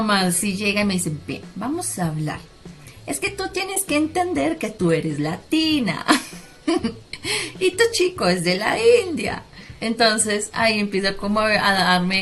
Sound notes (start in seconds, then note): 6.2 haahaha